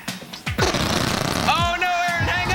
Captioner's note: fart Sounds